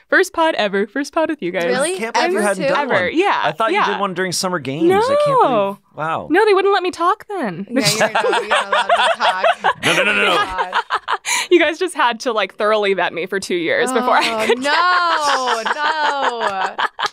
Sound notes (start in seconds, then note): 7.8 laughing; 14.0 laughs